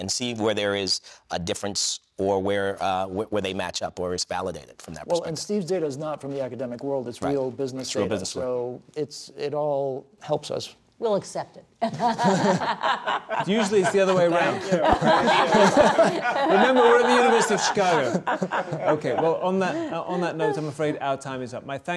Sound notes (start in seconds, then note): 12.1 panel members laugh; 15.9 panel members laugh